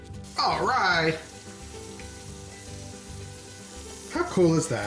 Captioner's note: pizza sizzling